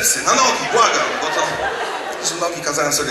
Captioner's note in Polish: śmiech